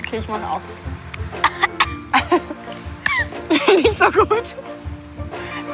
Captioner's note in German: lachend